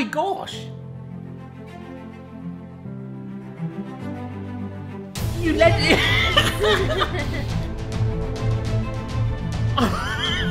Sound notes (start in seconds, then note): 0.8 triumphant instrumental music; 5.4 laughing